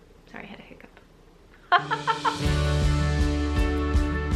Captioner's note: laughs; lively music